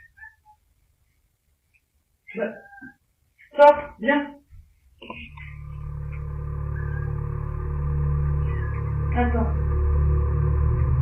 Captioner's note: agitated meowing